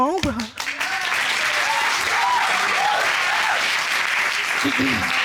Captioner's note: audience cheering